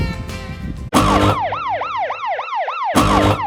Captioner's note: alarm Sound